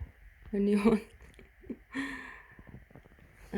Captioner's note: laughs